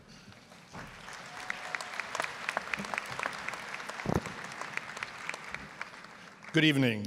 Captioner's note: applause